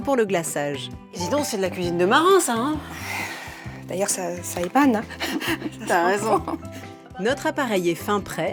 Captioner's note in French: rires